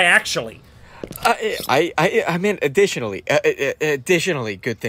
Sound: stammering

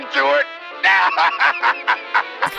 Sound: laughing

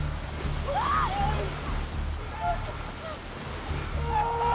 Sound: screaming

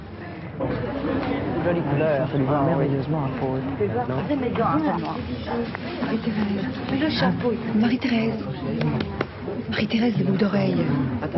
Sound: background chatter

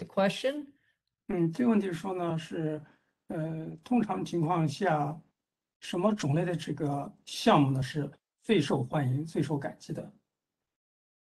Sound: speaks in Mandarin

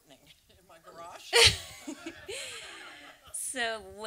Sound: and audience laughs

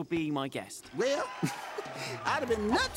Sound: crowd cheering

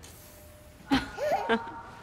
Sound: Alison laughs

